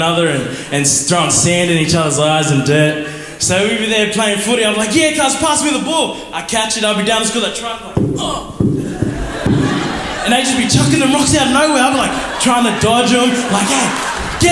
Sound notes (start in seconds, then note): 7.9 hits microphone on head